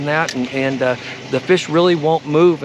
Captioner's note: rod whipping; reel spinning